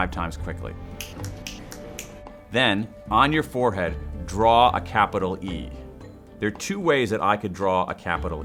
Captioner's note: snapping